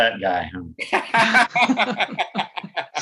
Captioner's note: laughter